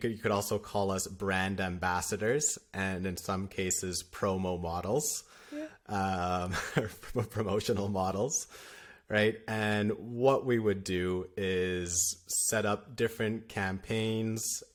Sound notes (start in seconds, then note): 6.4 laughter